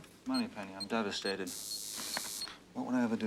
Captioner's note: beeping